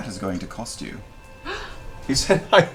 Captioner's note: gasps